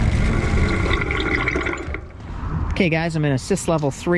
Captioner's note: wheel pattering